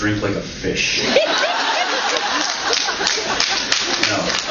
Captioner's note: laughs